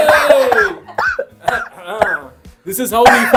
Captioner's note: coughing; battling with cough